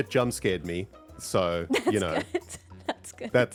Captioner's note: laughs